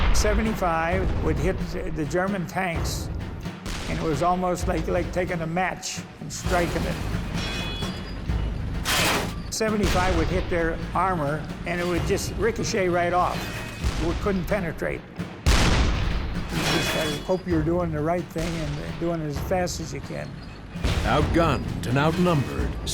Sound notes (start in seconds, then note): 0.0 cannon firing; 6.4 metal clanging; 15.4 cannon firing